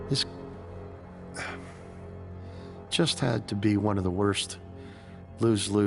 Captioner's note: sighing